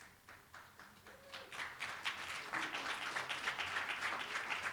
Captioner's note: applause